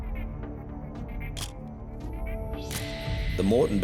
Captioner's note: camera shutter click